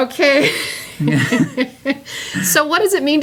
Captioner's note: laughter